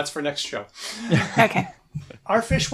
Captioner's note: laughter